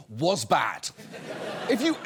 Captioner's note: audience laughs